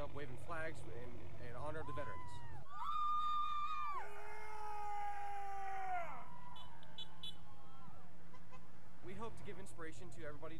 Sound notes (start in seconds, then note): 1.8 cadets cheering; 2.7 vehicles honking